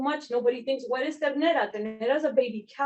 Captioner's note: speaking Spanish